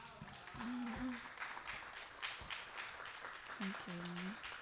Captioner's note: audience applauding